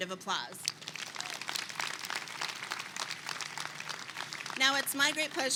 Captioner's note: attendees clapping